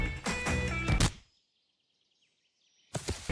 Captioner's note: skull crack; body thud